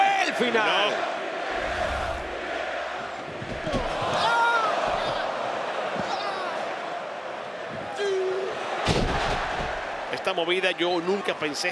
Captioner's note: applause